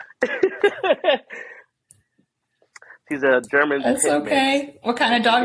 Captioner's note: laughter